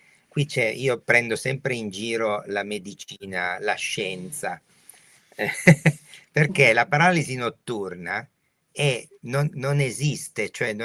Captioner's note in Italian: risate